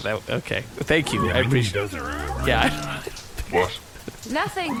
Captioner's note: muttering